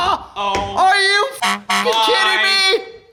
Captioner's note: beep